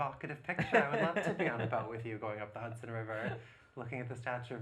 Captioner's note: laughs